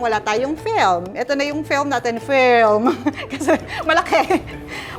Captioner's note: laughs